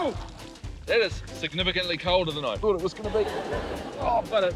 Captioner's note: laughter; laughter